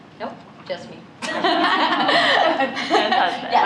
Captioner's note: laughter